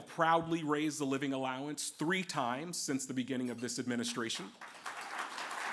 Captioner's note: applause